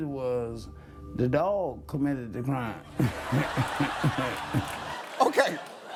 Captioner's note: audience laughing